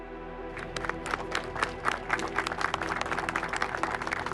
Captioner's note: crowd applauding